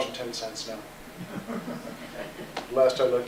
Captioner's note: laughter